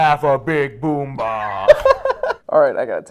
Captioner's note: laughing